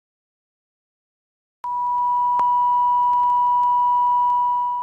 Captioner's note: digital tone